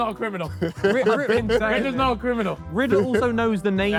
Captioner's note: laughs